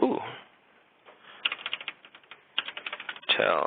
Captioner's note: typing